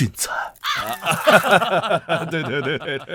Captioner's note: chuckles